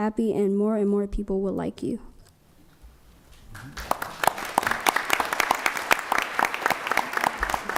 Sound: applause

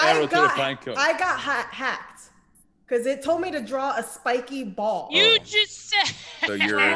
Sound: laugh

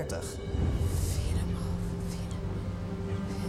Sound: whispering

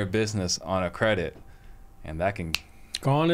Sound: finger snap

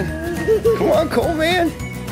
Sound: laughing

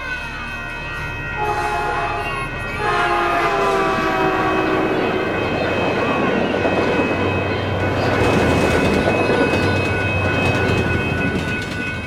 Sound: sound of train passing nearby

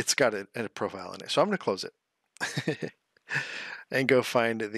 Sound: laughs

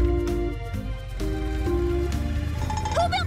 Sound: engine starts

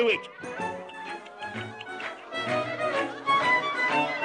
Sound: ghost tsks

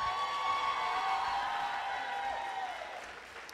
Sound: applause

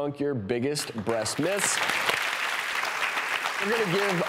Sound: applauding

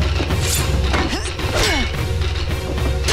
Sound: grunting

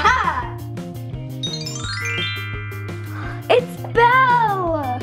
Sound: magical sound

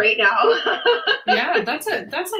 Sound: laughs

